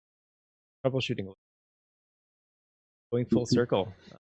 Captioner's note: audio out